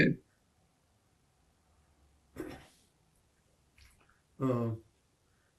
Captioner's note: pauses 6 seconds